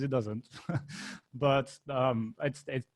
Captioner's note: laughing